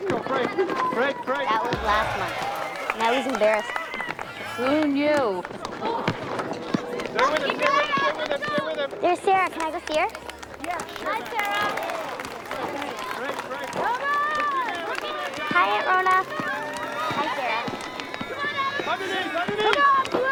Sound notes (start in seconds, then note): 3.9 chuckles